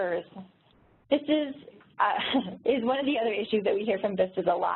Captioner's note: laughs